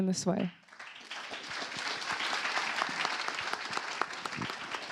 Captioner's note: applause